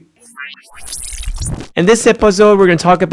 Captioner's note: machine whirring